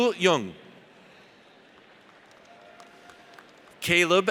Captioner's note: audience applauds